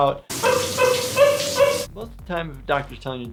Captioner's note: shower water pouring; man crying